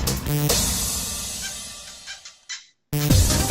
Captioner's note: rodent squeaking; upbeat techno music